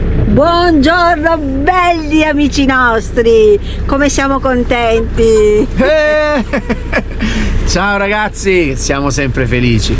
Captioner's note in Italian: risate